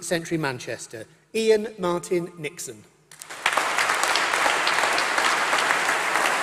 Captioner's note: applause